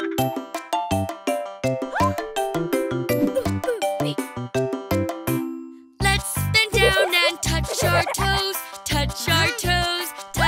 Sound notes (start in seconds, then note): 0.0 upbeat music; 2.0 gasping